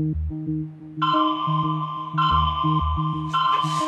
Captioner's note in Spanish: Llamada de Skype